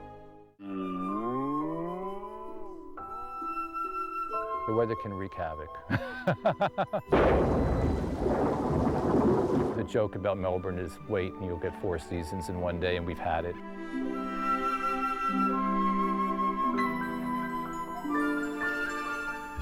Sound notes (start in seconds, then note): 5.9 laughs; 7.0 thunder cracking